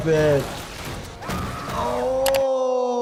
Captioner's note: victim 1 screams